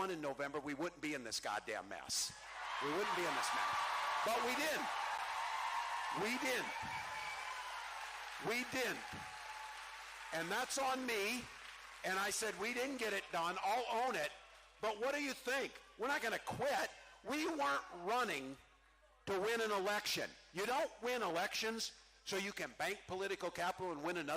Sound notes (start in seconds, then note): 8.1 cheering